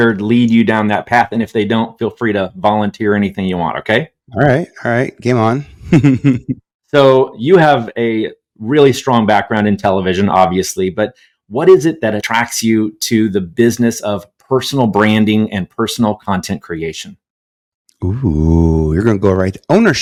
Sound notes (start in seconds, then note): 5.8 chuckles